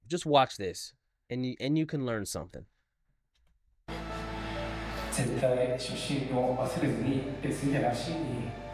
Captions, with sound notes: just watch this and you can learn something. (speaking foreign language)